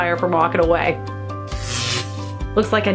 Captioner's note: electric shorting